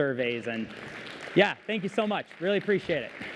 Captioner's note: applause